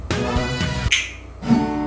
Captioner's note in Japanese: パチ